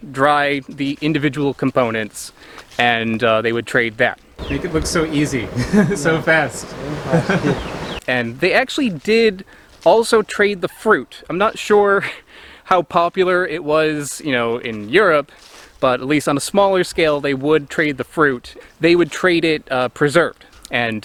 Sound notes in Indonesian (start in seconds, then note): 7.5 tertawa